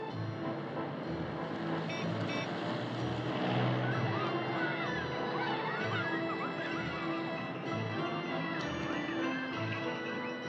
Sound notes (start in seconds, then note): 1.3 horn Honks